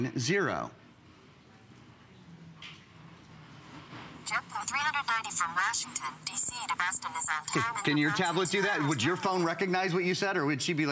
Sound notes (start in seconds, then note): 4.5 electronic voice